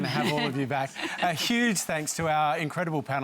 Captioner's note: laughter